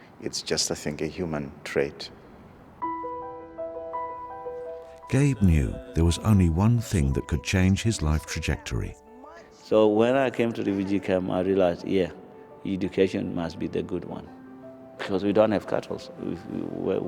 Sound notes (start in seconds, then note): 2.8 uplifting piano music; 5.4 voiceover